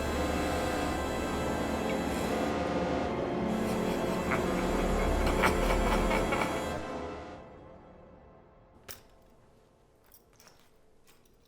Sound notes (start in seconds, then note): 0.1 ominous music playing; 4.0 laughter